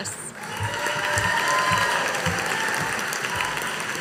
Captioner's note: audience applauding